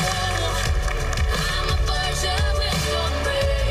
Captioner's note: applause